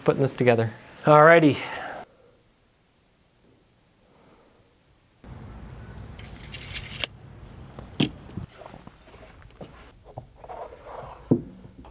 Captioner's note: sawing